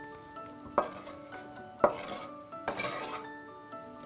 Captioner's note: scraping